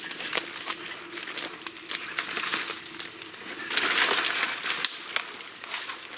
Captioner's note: leaves crunching and sticks snapping